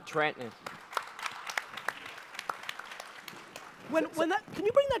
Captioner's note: audience applause